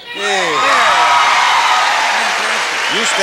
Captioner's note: audience cheers